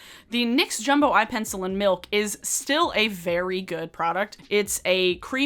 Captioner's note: none